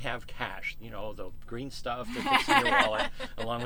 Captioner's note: laughter